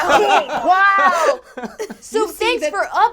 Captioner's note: all laugh